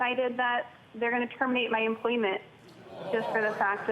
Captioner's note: crowd groans